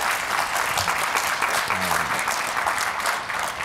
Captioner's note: applause